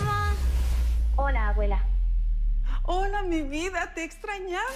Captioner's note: non-english speech